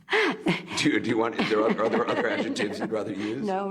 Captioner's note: laughs